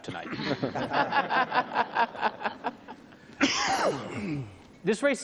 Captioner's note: everyone laughs